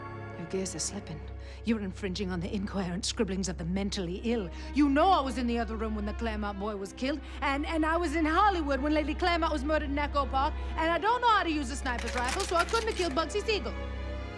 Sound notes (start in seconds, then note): none